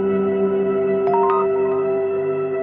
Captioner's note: soft music; text sound; soft music